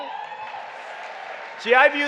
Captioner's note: applause